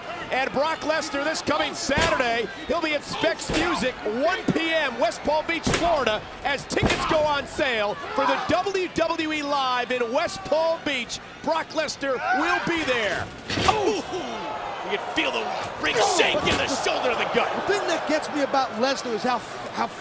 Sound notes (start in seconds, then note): 2.7 wrestler slamming floor; 11.8 commentators wincing; 12.9 Henry screaming, slamming